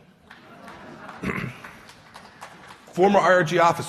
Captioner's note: laughter and applause